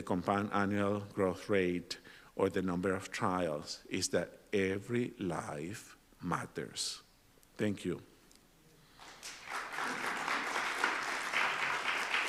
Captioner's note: applause